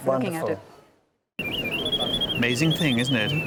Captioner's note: birdsong